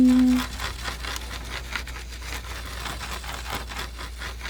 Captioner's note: scratching